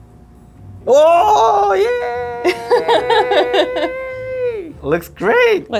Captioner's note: laughing